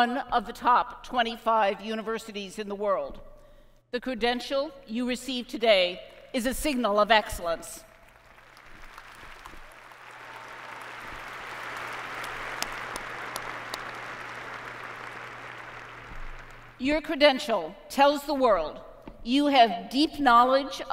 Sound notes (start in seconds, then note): 7.8 applause